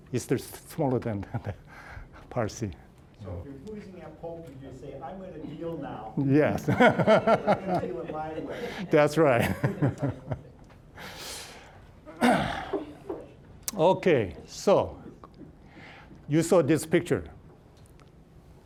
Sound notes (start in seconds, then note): 6.4 all laughing